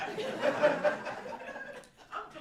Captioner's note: audience Laughter